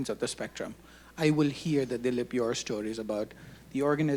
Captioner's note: speaking Hindi